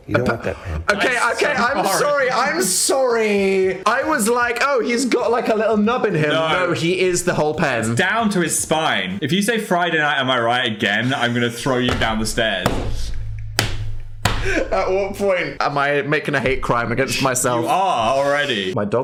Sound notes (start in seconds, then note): 12.7 Dan laughs